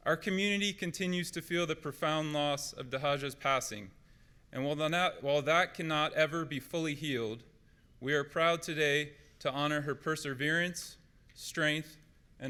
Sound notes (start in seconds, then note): none